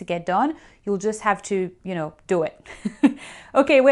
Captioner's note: laughing